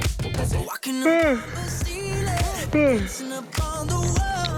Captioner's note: yawning